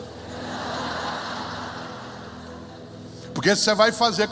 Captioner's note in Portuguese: risos